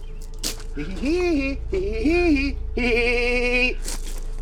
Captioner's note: man mock laughing